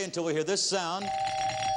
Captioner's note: ringing bell